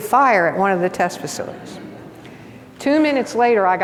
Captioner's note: audience laughs